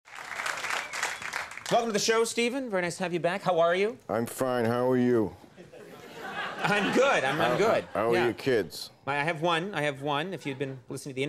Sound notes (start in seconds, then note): 0.0 audience applauding; 5.6 audience laughing